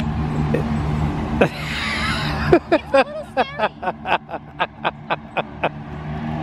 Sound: laughs

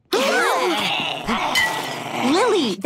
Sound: growling; gasping

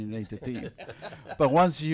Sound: all laughing

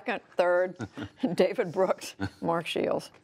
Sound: laughter

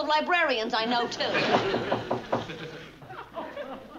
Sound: knock on door

